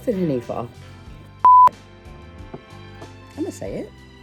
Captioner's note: beep